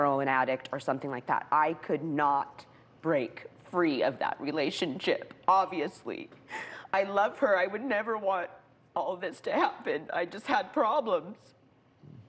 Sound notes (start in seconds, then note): 6.9 voice breaking